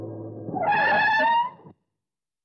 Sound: brakes squeal

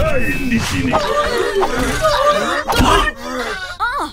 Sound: whimpering

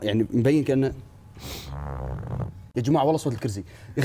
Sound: farting sound

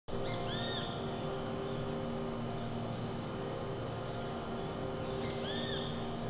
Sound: bird sounds

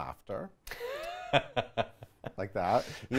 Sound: laughs

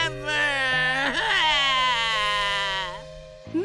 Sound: sobbing

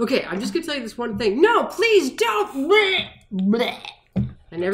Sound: regurgitation sound

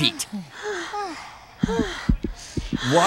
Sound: panting; heart thumping rapidly

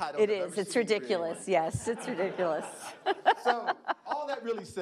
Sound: laughing

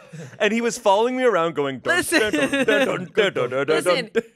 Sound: everyone laughs; vocalizes

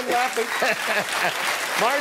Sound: laughter

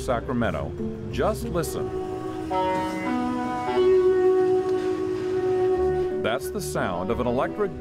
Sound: bus tones

